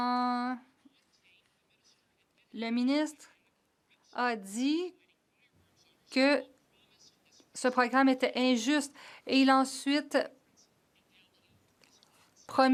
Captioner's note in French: voix de l'interprète